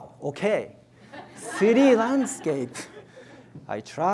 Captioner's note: audience laughs